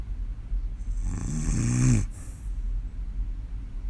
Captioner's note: snoring